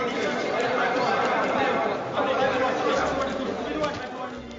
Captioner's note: speaking in foreign language